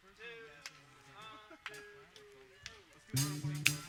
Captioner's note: applause